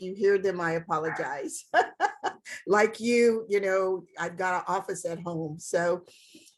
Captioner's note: laughs